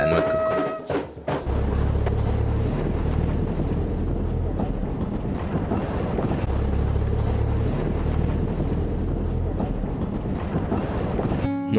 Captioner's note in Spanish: Sonidos de motor